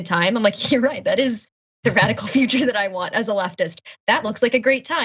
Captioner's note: laugh